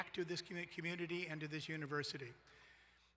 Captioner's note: none